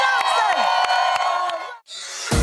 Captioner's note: audience cheering